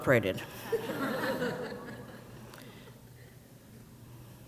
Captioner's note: crowd laughs